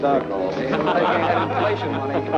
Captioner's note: chuckling